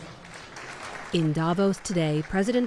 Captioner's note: applause